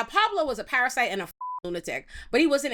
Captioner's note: beep